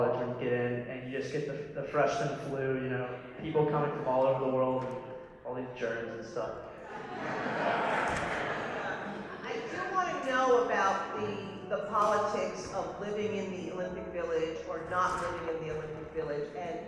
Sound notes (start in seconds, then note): 6.8 laughter